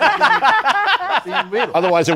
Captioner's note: laughter